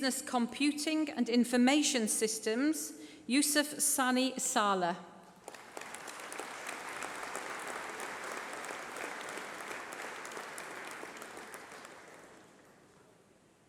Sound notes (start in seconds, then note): 9.8 applause